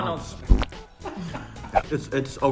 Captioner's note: distant laughter